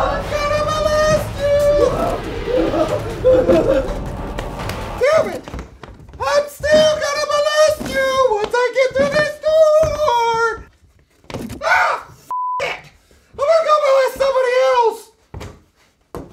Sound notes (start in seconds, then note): 1.8 both whimper